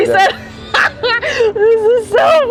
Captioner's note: laughs